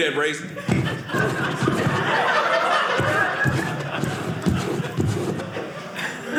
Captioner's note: audience laughing